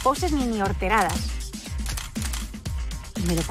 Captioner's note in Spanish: Disparos cámara